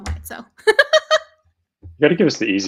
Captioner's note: laughing